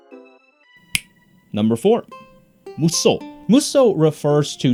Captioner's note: fingers snap